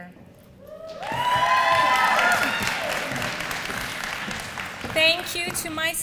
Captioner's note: applause